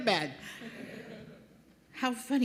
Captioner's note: laughter